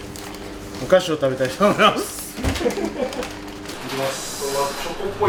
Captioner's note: laugh